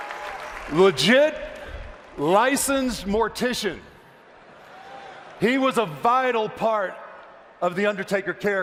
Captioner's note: applause